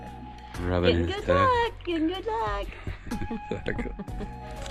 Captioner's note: laughing